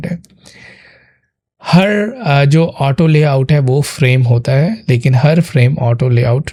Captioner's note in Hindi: गहरी सांस लेने की आवाज़